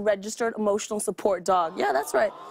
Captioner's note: audience "aww"s